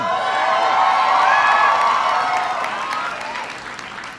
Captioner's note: applause